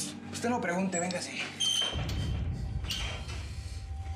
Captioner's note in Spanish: crujido de la reja